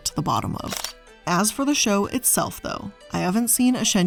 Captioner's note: camera shutter clicking